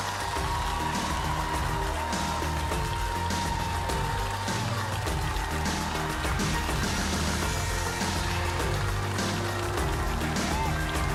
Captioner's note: applause